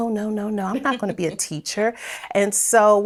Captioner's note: laughing